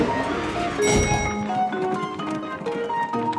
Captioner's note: dinging